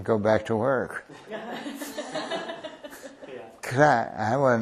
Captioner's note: laughter